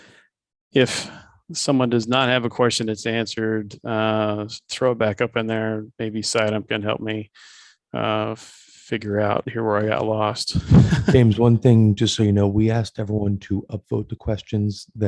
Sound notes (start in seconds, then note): 10.4 laughs